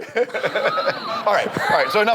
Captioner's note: audience laughs